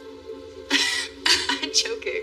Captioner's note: Layla chuckleles